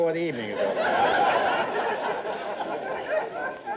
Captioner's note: audience laughter